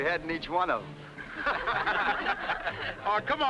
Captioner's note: everyone laughing